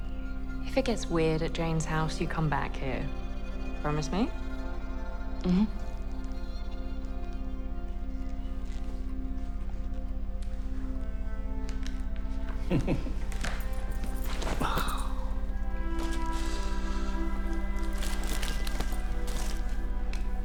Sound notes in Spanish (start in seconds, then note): 12.5 Oscar suspira; 12.6 Oscar se ríe